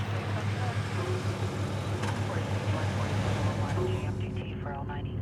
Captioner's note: police radio chattering